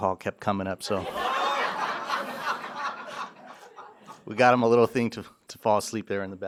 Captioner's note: laughter